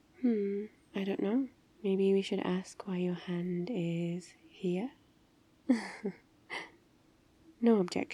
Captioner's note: laughs